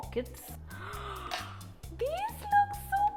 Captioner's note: gasps